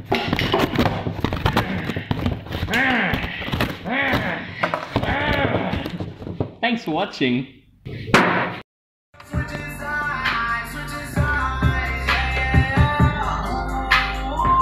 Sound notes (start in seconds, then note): 2.6 angry moan; 2.7 more angry "Grr's" and moans